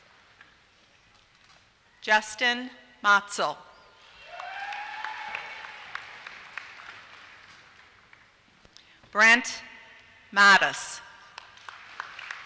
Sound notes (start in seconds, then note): 4.1 applause; 11.2 applause